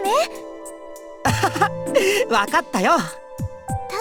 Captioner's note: laugh